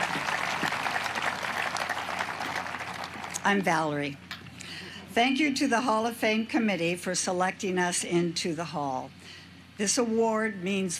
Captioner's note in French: applause